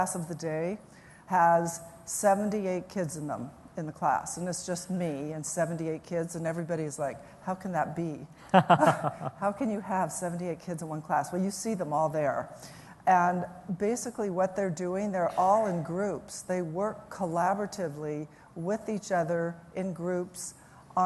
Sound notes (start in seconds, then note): 8.4 laughter